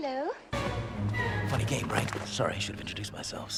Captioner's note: thud